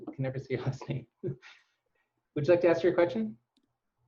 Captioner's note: laugh